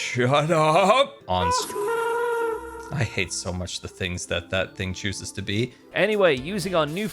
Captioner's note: happy ghast noise